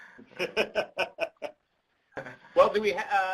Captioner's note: laughs